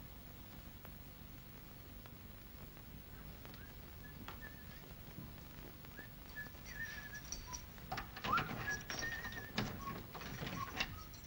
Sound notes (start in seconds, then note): 3.5 whistles; 7.8 desk unlocks